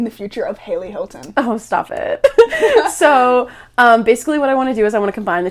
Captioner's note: laughs